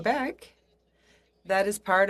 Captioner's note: speaking in French